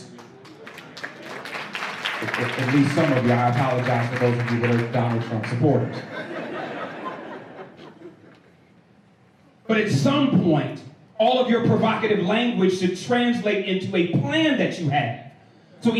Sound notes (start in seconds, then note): 0.0 applause; 5.9 laughter